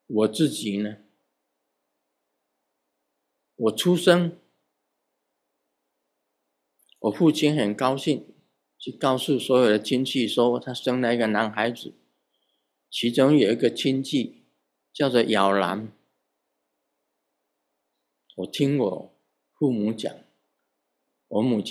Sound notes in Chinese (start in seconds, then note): 16.6 台語